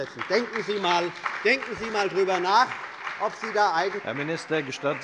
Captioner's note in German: Beifall bei dem BÜNDNIS 90/DIE GRÜNEN, der SPD und der LINKEN